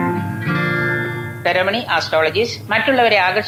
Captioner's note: on phone